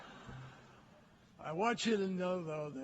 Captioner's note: laughter